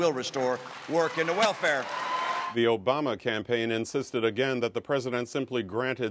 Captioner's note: cheering and applause